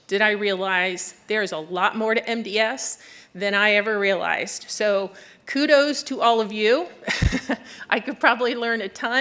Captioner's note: laughter